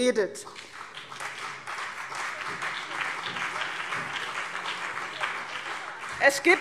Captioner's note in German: Beifall CDU und BÜNDNIS 90/DIE GRÜNEN